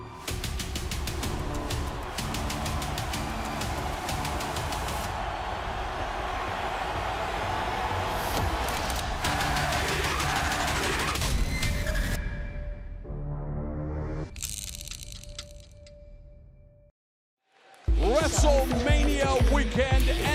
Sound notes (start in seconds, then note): 0.0 crowd cheering